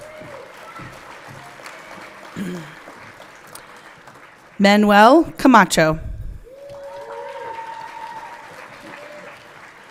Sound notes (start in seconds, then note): 0.0 everyone clapping; 6.5 everyone clapping